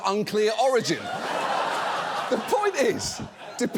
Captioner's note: audience laughs